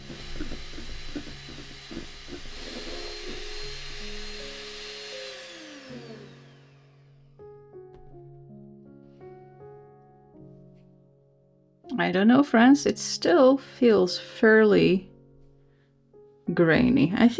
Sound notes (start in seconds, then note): 0.0 machinery whirring; 6.1 whirring stops